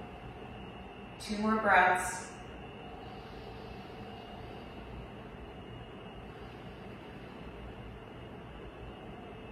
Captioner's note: inhales; exhales